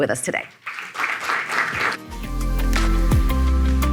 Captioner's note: audience clapping; upbeat music